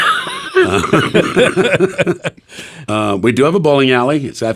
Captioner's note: everyone laughs